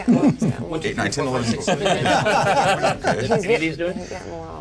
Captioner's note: laughs